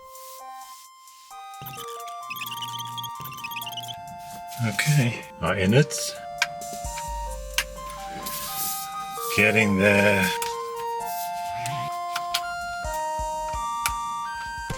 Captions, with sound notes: (sped up audio squeaking) Okay, our innards. (clicking sounds) Getting there... (upbeat electronic music)